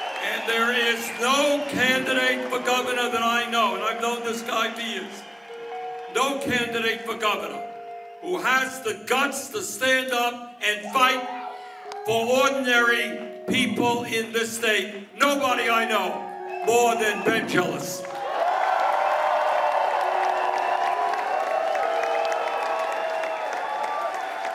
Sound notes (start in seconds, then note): 10.8 cheers and applause